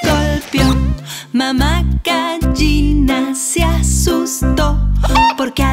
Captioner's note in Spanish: Sonido de gallina